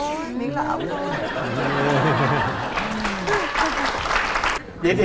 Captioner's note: applause